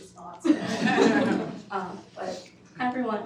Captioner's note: students laugh